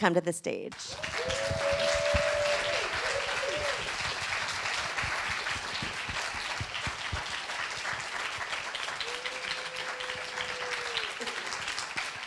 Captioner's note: applause